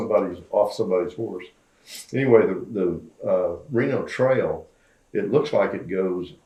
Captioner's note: laughs